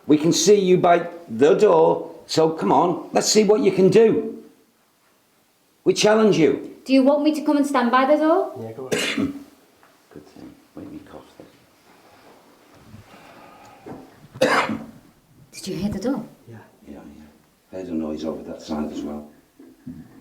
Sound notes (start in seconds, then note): 14.3 coughing